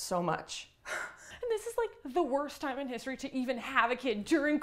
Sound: sighing

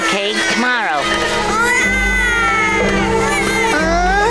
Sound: baby crying

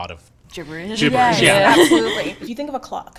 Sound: people laughing

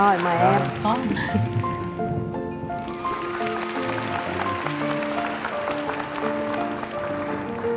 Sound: cheering

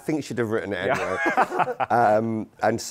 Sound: laughter

